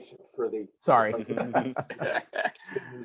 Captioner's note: many laughing